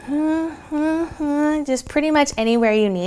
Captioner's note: humming